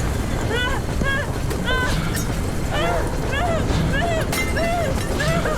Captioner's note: panicked screaming